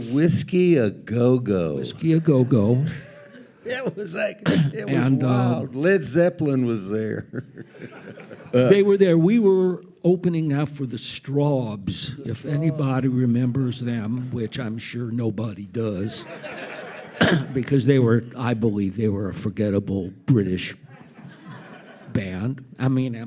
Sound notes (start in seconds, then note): 6.9 chuckles; 15.9 audience laughs